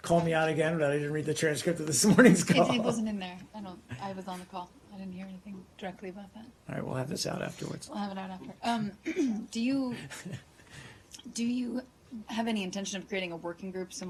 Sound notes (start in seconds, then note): 2.1 laughter